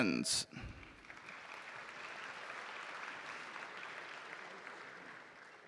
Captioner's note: audience applauding